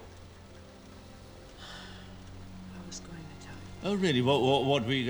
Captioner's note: sighs